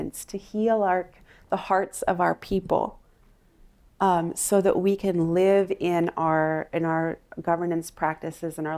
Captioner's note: none